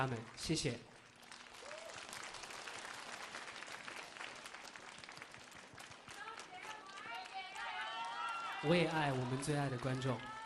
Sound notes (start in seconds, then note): 3.2 cheering